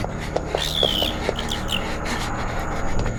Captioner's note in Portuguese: Screeching